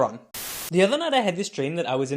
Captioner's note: Static